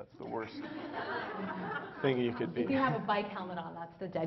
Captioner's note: Laughter; 笑聲